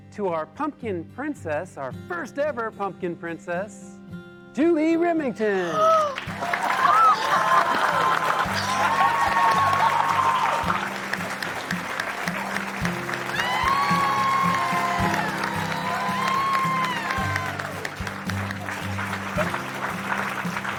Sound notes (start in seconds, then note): 5.8 Lynn gasps; 5.8 group cheering